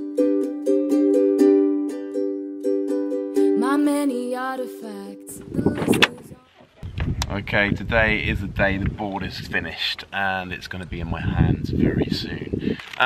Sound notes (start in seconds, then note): 5.7 door opens